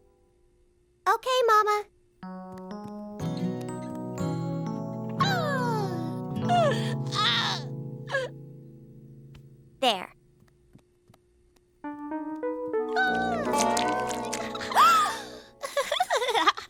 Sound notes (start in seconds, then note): 6.5 Jack cooing; 13.8 giggling